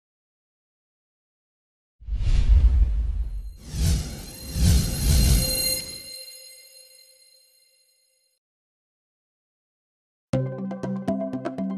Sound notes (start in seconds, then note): 5.0 whoosh